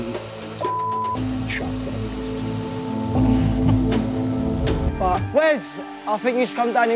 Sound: beep

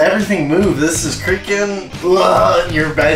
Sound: gags

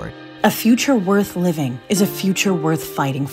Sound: voiceover

